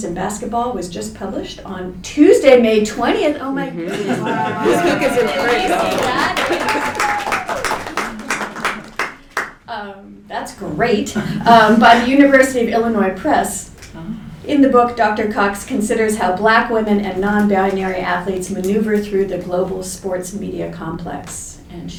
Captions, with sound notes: in Basketball, was just published on Tuesday, May 20th. Oh my goodness, this book is great. [Applause.] That's great. By the University of Illinois Press. In the book, Dr. Cox considers how black women and non-binary athletes maneuver through the global sports media complex. And